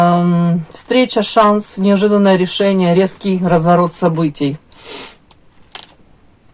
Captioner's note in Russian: фыркает